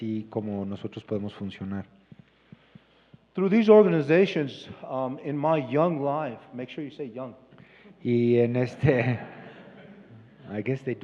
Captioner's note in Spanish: risas